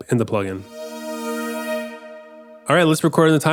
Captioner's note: electronic slide